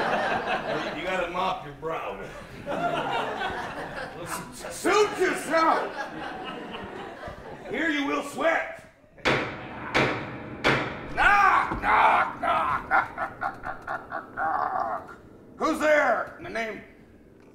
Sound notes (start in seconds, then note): 0.1 laughter; 9.2 knocking